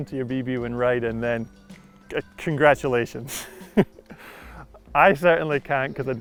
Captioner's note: giggles